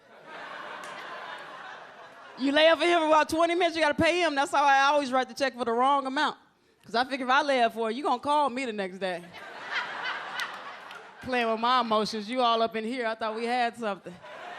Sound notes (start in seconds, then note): 0.0 audience laughs; 9.3 audience laughs